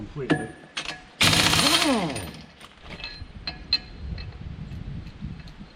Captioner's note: impact wrench whirring